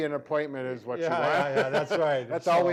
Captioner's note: laughing